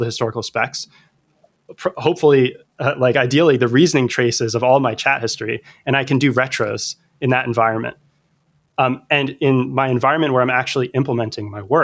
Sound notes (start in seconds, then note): 2.1 uh